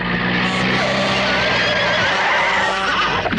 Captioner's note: tires squeal; Alfred neighs